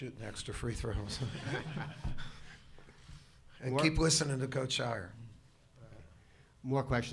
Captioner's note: laughter